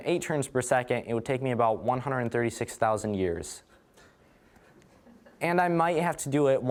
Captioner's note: audience laughing